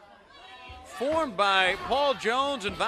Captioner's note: crowd chatter